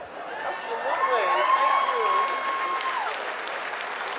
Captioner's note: audience applauding